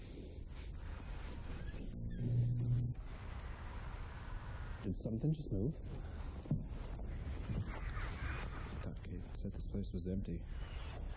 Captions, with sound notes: (electronic crackling) Did something just move? I thought Kate said this place was empty.